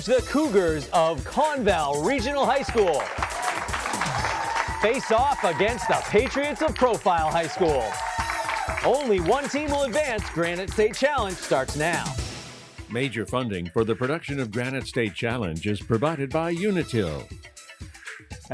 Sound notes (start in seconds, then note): 3.1 applause